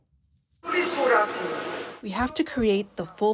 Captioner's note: through translator